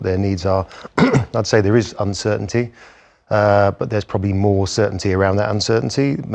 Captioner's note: cough